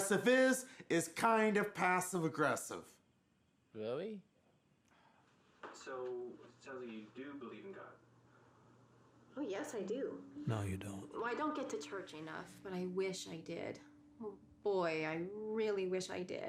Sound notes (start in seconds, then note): 9.6 narrating